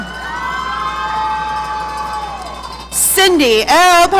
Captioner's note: audience cheering